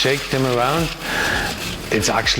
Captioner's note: nuts rattling